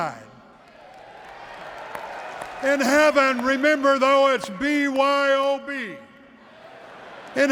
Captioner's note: applause